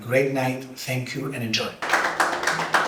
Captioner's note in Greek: Χειροκρότημα